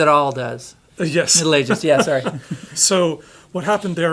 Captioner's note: laughs